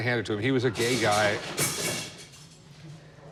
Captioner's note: clattering